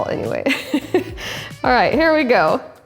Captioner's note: laughing